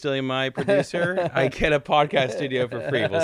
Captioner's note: laughing